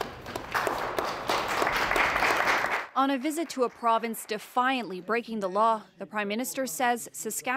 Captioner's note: applause